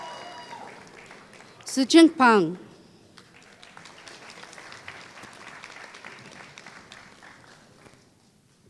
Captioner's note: applause